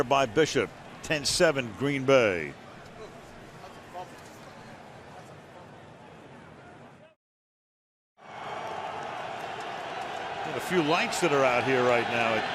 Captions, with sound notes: Sacked there by Bishop. 10-7, Green Bay. [cheering] We have a few lights that are out here